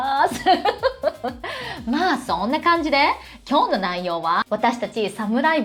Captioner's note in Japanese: 笑い